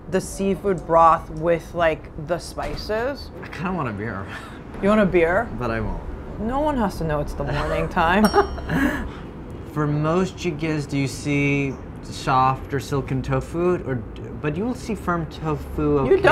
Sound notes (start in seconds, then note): 8.3 laughs